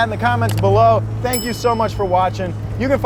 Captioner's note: bell dings